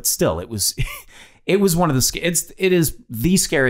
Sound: Glenn laughs

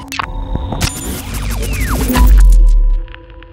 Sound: tech noises

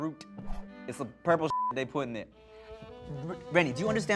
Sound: beep

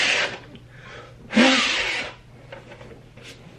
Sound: blowing

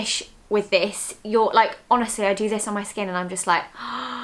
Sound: gasps

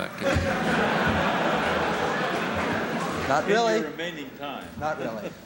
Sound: laughter; laughter

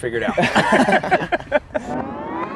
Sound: laughter

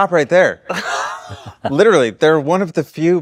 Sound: chuckles

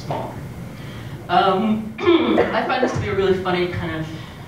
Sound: cough

